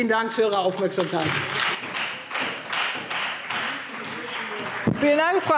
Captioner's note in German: Beifall Freie Demokraten und vereinzelt SPD